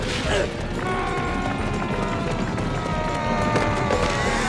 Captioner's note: people yelling